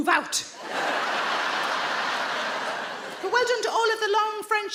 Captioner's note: audience laughing